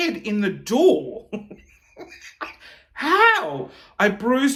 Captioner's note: chuckling